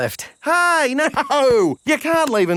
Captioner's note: laughing